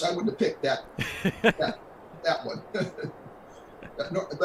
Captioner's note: laughs